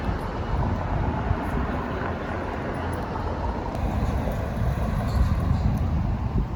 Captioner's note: traffic passing